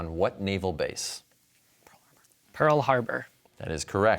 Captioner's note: whispers